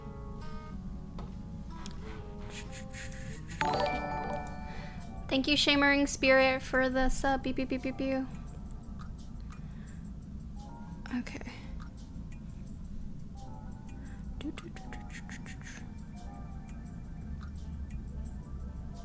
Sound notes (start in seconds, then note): 3.6 notification tingling